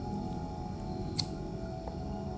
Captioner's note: lighter snicks